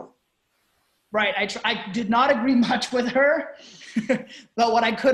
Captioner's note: laughing